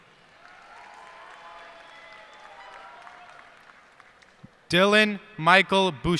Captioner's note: cheers and applause